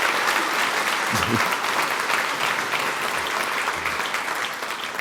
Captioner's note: applause